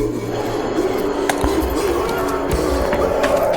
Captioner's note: Pete gasps; entity ghostly whooshing; Pete screams